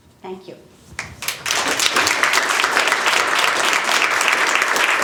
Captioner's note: applause